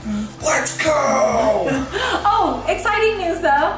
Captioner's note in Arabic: يضحك